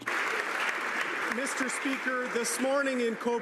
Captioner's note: some Applause